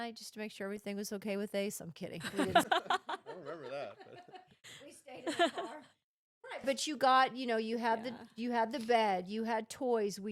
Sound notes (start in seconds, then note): 2.3 laughing